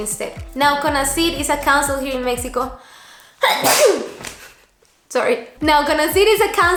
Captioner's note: sneeze